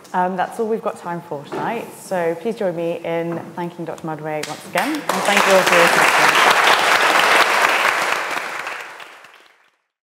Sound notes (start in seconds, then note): 4.8 audience applauding